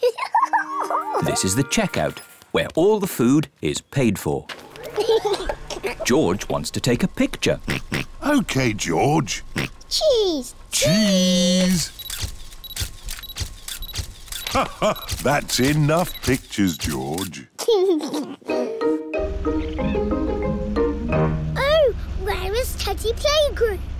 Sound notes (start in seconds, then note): 4.8 giggles; 7.6 oinks; 14.4 laughs; 17.6 giggles